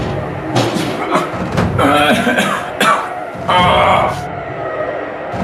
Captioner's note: Adam groaning